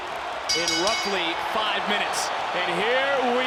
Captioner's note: bell dings